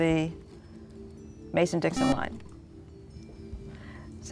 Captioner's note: buzzer